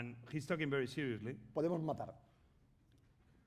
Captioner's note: speaking spanish